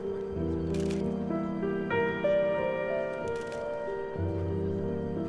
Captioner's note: camera shutter snapping